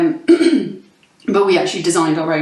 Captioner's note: clears throat